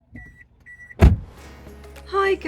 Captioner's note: car not starting